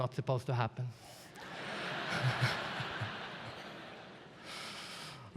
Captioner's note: audience laughs